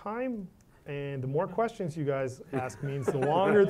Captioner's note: laugh